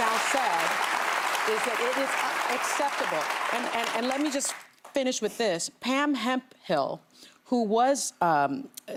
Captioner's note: applause